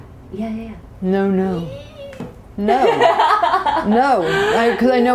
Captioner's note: laughter